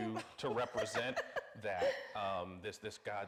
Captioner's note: laughing